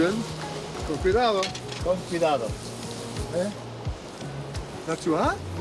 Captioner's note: speaking Spanish